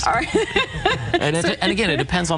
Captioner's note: laughs loudly